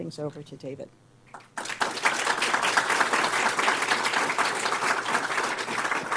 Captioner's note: applause